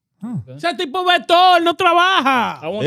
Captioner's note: speaking In Foreign Language